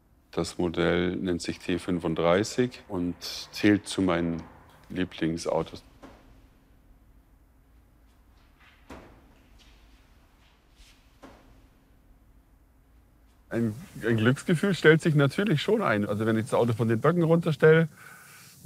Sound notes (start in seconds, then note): 5.8 slow, distant knocking